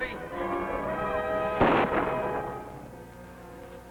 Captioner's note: gun fires